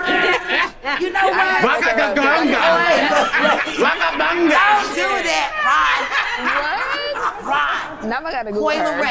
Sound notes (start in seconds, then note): 2.2 man imitating alien